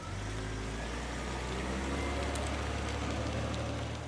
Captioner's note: engine revving